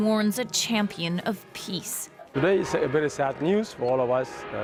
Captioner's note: bells tolling